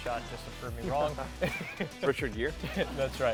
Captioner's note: laughs